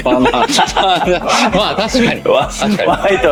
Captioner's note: laughs